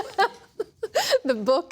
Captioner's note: laughter